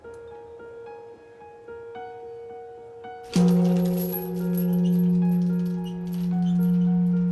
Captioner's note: gentle music; clanging continues